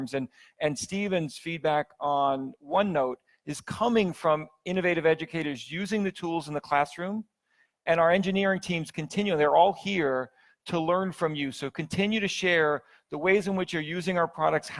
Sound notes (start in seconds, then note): none